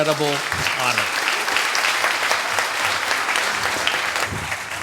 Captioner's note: audience applauds